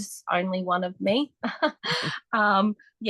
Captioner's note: laughs